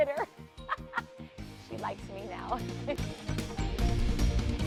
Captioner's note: laughter